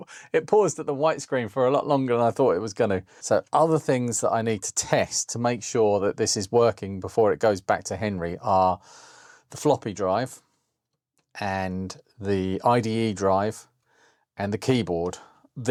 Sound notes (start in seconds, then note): none